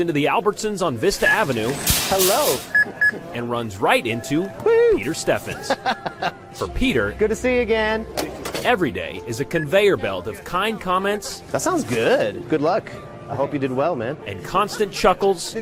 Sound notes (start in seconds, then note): 5.4 laugh